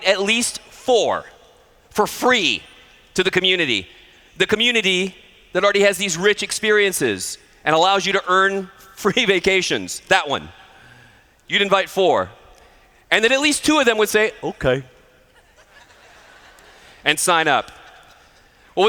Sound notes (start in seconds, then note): 15.3 laughter